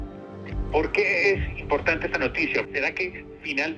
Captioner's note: on phone